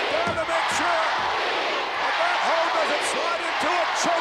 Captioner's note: crowd chants